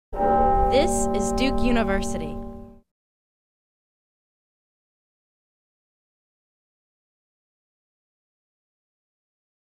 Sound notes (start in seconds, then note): 0.1 bell tolling